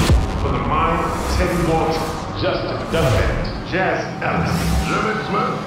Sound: indiscernible chatter

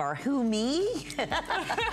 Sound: laughter

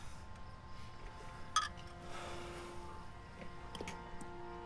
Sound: tense music; clink of bottles

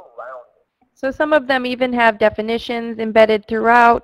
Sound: voiceover

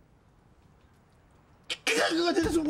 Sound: grumbles

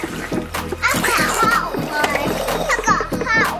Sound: water sloshes

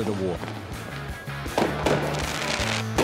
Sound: explosions

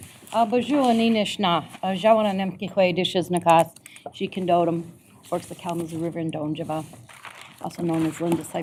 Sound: speaking foreign language

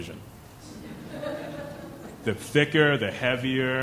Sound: chuckling

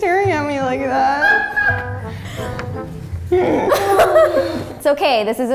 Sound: laughing

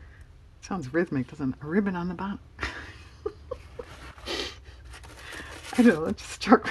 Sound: laughs

